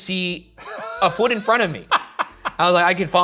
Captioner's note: laughs